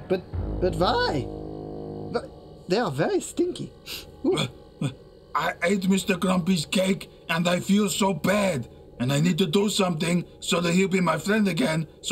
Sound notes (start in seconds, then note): 3.4 sniffing